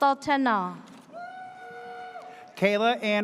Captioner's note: audience cheers